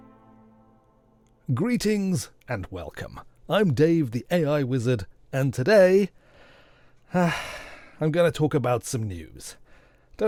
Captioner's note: sigh